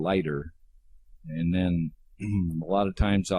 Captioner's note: clears throat